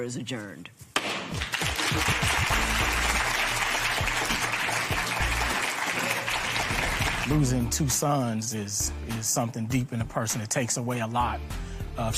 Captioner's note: applause